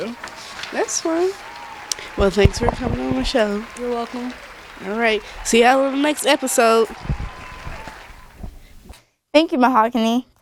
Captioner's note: applause